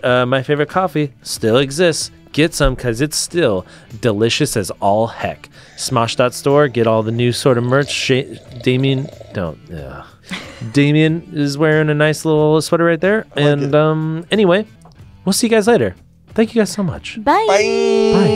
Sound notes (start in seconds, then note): 10.2 laughs